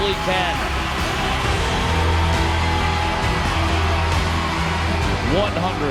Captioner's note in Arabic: تشجيع الجمهور